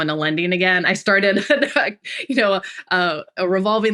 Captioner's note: laughs